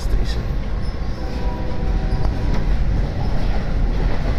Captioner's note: Acela Express horn